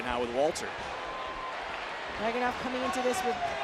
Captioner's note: applause